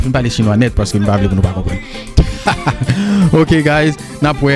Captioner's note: laughs